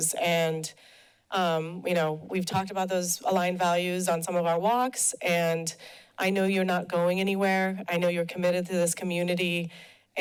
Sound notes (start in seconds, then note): none